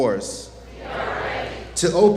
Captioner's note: audience chants "We are ready"